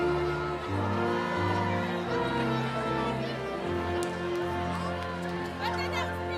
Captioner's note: cheering continues; inspirational music